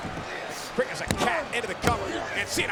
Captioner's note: hands thudding